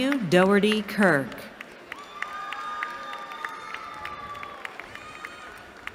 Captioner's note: cheering